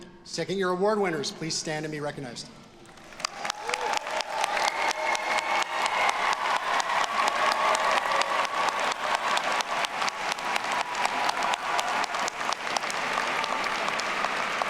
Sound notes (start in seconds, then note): 3.0 audience applauding; 4.8 audience cheering